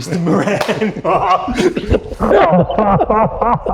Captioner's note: laughing